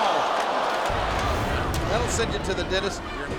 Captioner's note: crowd groaning; air whooshing